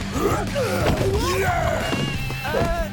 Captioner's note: groaning